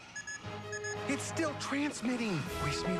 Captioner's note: beep beep